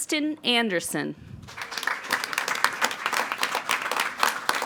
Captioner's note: all applauding